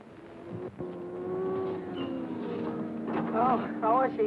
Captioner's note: cars revving